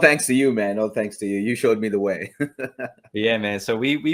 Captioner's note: chuckles